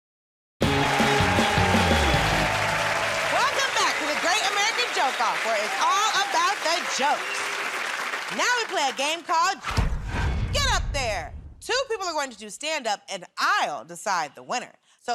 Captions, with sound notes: [ Cheers and applause ] Welcome back to "The Great American Joke Off", where it's all about the jokes. Now we play a game called... ..."Get Up There!" Two people are going to do stand-up, and I'll decide the winner.